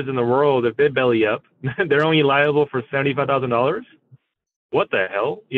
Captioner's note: laughs